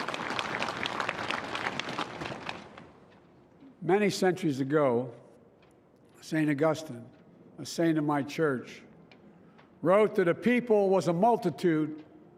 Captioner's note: applause